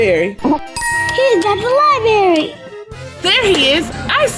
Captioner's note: magical ting